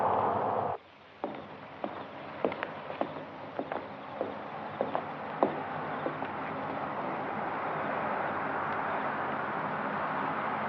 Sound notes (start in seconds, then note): 1.9 crickets chirping